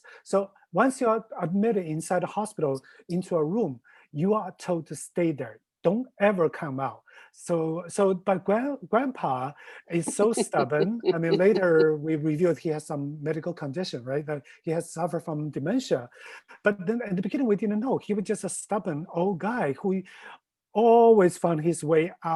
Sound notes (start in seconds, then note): 9.9 laughing